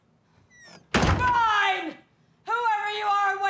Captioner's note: door slamming